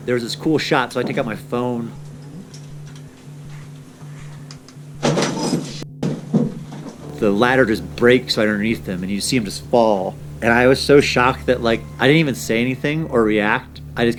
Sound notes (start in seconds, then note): 3.4 scuffling; 5.0 crash and bang; 6.9 beep